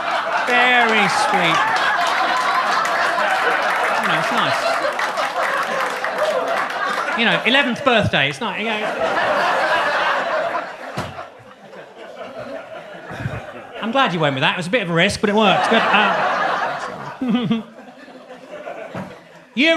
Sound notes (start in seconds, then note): 0.1 audience laughs; 2.1 audience claps; 8.6 audience laughs; 15.3 laughs; 16.1 audience laughs